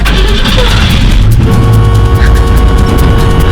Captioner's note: car horn honks